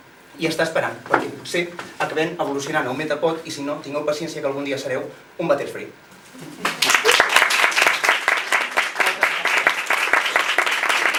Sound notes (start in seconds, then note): 6.6 applause